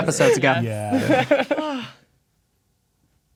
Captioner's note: players laughing